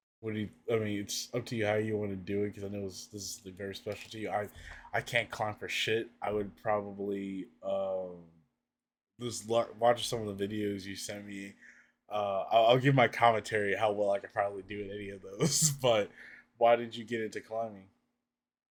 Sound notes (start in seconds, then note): 15.4 laughs